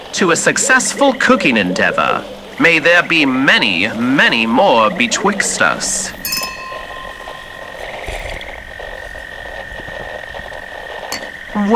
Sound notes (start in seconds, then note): 6.0 crystal toast chiming fx; 8.0 sip, gulp fx